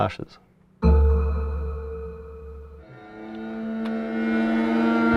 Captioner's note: deep eerie atonal sound